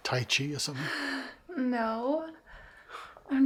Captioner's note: laughs